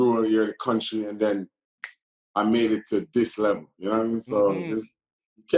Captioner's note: snap